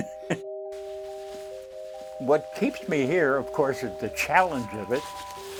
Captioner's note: laughs